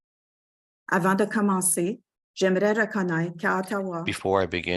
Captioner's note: speaking French